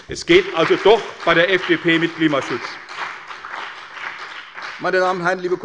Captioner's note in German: Beifall bei der CDU und dem BÜNDNIS 90/DIE GRÜNEN